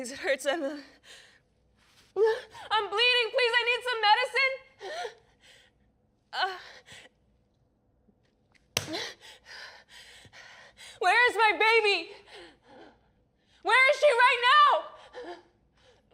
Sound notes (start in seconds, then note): 6.4 groaning